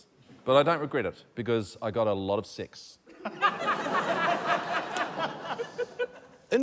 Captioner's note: laughter